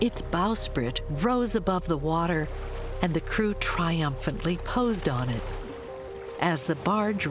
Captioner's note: dog shakes off water